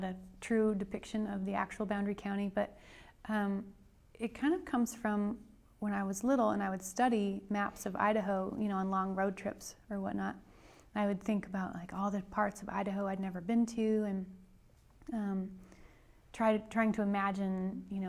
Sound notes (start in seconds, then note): none